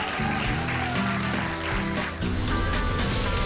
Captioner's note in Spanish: aplausos